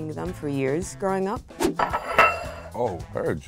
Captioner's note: plate scrapes table